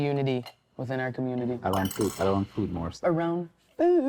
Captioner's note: fork clattering drowns out speaker